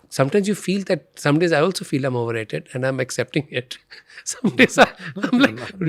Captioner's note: chuckles